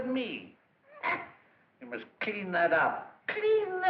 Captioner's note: laughs